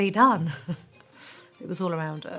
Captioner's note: chuckles